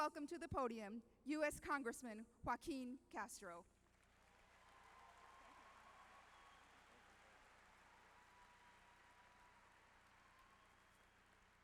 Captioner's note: applause